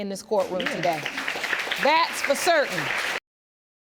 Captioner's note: audience applauds